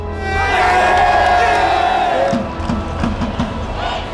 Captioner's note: shouting; drumming and cheering